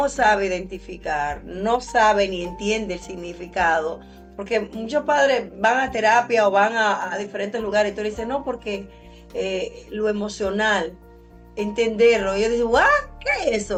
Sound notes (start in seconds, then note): none